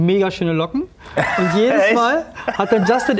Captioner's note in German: Lachen